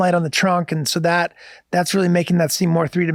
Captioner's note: none